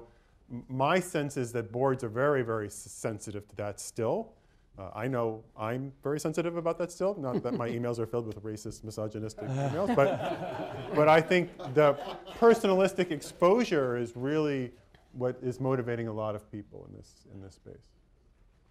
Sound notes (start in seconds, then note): 9.4 laughter